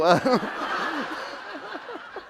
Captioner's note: laughter